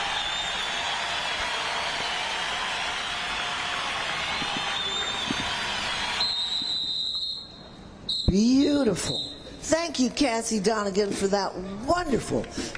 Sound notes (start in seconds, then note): 0.0 applause